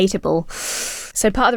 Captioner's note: sucks teeth